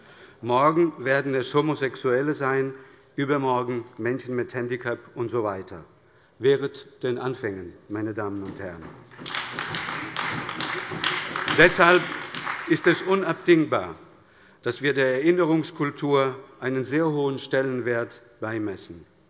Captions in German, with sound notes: Morgen werden es Homosexuelle sein, übermorgen Menschen mit Handicap usw. Meine Damen und Herren, wehret den Anfängen. (Beifall bei der SPD und der LINKEN) Deshalb ist es unabdingbar, dass wir der Erinnerungskultur einen sehr hohen Stellenwert beimessen.